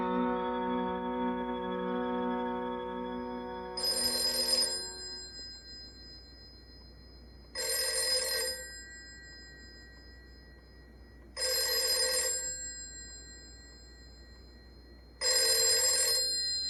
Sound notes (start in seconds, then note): 7.5 phone ringing